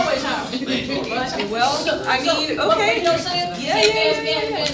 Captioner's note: all chattering